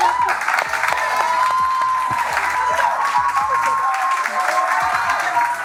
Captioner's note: audience cheering